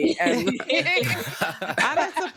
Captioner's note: laughing